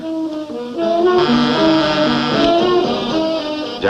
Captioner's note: phone buzzes